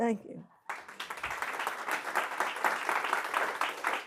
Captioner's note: applause